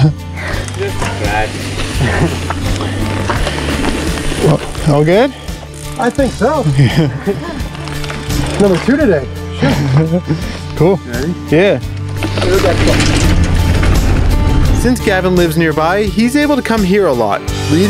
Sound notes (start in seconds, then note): 9.9 snickering; 12.0 tires rumbling on the ground; 12.6 mumbling